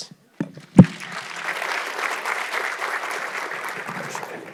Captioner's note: audience clapping